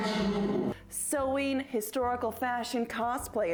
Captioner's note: normal voice